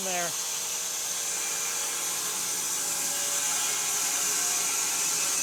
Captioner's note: saw whirring